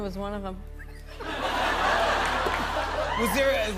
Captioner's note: laughter